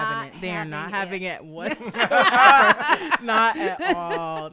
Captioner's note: all laughing